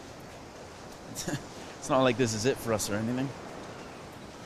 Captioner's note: chuckles